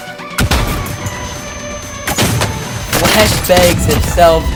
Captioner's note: weapons exploding